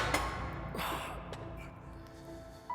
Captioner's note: clanking sound; breathing heavily; exhales